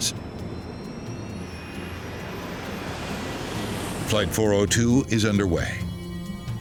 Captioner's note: jet whooshing